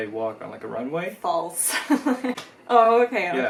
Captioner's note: chuckles